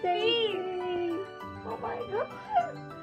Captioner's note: joyfully